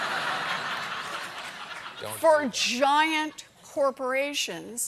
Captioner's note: laughter